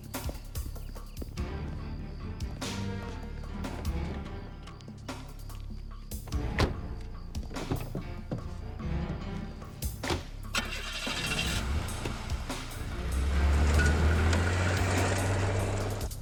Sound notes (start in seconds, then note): 0.1 tense music continues; 6.2 doors thudding; 10.4 engine starts; 13.4 engine revving